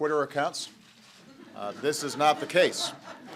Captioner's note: laughter